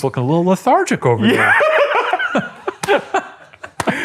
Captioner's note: laughs